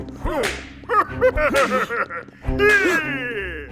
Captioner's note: whip cracking; Pharaoh laughing evilly